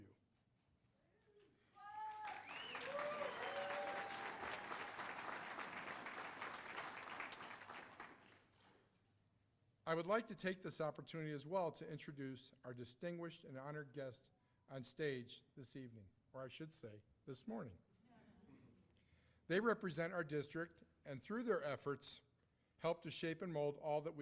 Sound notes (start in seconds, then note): 4.3 cheers and applause